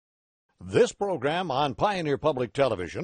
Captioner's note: voiceover